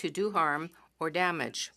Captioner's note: speaking French